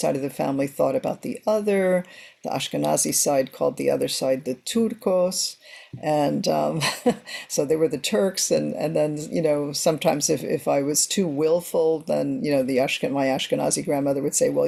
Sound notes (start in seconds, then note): 6.8 chuckles